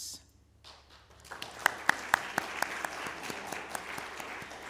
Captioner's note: applause